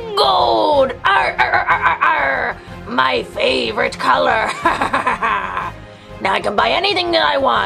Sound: laughs

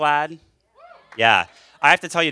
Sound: applause

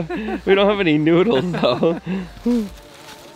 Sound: laughing

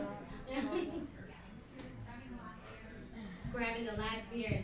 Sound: laughs

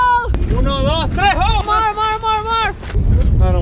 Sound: speaks foreign language

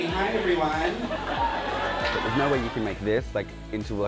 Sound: audience laughs

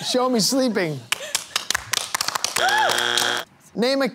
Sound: buzzer

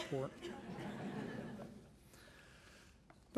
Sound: laughing

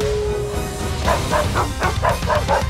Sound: barking

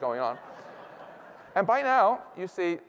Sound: laughter

